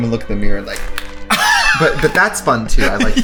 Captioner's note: laughs